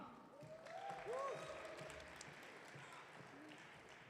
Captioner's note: audience cheering